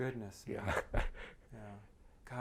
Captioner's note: laughs